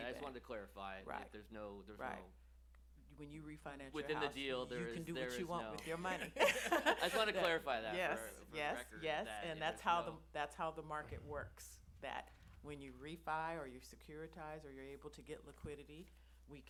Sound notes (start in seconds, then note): 6.2 laughs